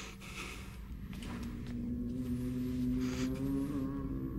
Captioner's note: groaning continues